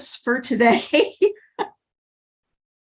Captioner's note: laughter